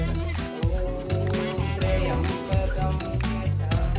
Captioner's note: chanting